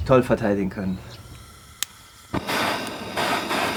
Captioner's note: hissing; hissing turns into a hissing